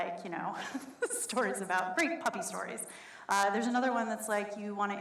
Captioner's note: laughs